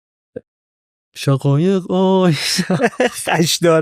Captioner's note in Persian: خنده